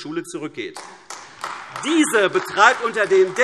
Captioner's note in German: Beifall AfD